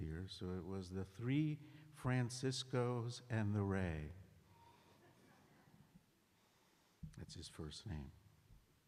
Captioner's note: laughter